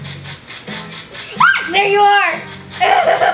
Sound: assistant screams; assistant giggles

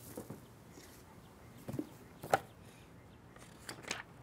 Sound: none

